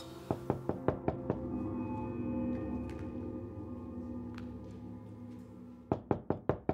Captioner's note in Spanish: Toques en la puerta